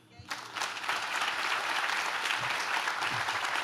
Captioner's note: audience claps